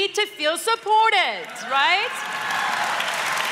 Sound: cheers & applause

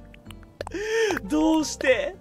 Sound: takes a deep breathe

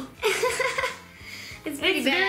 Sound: laughs

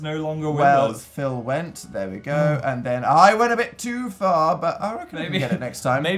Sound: voice Break

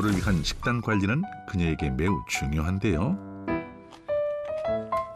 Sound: voiceover

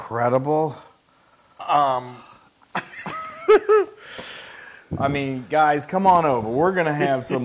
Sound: laugh

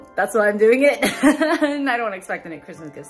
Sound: laughing

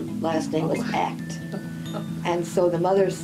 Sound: laughs

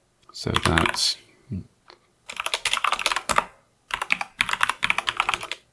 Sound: typing

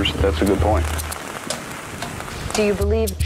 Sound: rain

